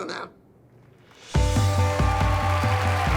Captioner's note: cheering and applause